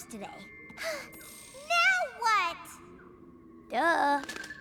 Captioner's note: sighs